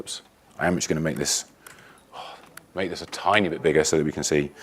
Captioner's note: sigh